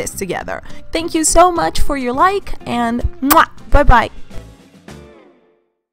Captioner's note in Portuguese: barulho de beijo